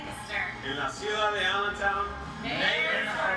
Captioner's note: speaks in Spanish